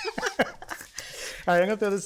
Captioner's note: both laughing